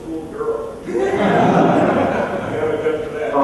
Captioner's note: laughter